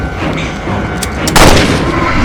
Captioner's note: bullet chambered, gunshot